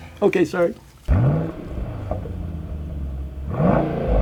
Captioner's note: engine revs